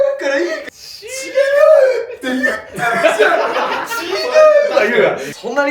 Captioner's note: laughs